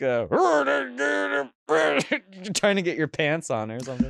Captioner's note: grunts